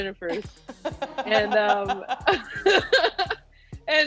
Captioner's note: laughing; laughs